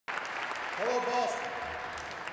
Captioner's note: aplause